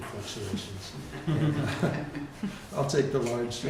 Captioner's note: chuckling